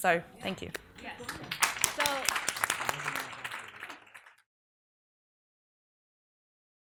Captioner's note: audience applauds